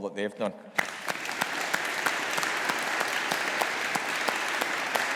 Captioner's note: all applauding